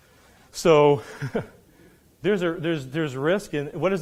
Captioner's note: laughs